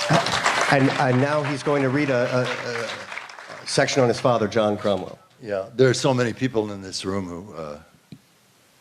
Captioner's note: applause